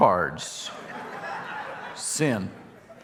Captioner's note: audience laughing